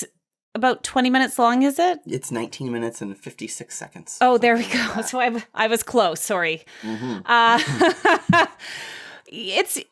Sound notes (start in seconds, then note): 7.1 laughs